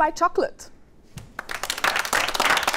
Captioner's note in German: Applaus